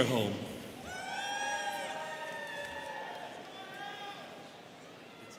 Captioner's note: students cheering